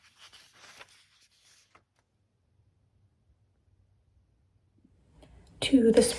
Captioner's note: page flipping